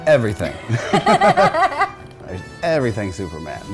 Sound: laughing

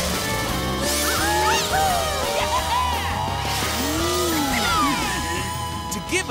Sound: cheering

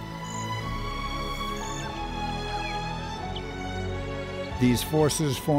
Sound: bird and wind noises

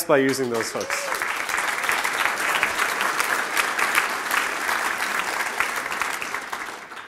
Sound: applause

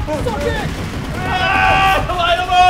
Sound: laugh

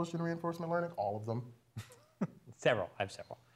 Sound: laugh

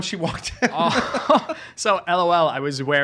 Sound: laughing

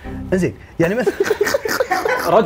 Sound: laughs

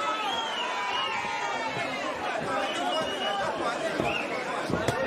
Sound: crowd cheering and whistling

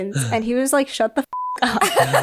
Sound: beep; all laugh

